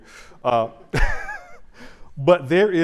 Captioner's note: chuckles